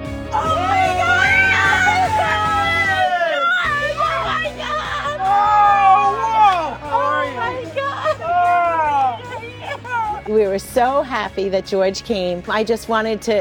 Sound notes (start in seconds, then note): 3.8 cheering